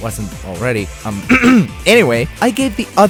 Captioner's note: ahem